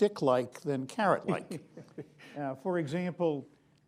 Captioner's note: laughter